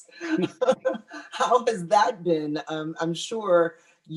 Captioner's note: laughs